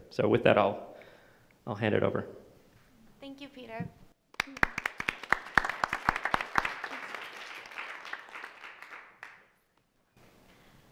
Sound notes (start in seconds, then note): 4.3 audience applauding